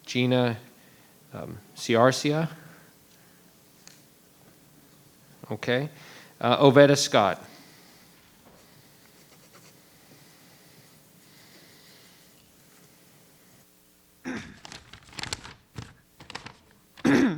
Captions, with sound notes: Gina Ciarcia? Okay. Oveta Scott. (pen scratching) (throat clearing) (paper rustling)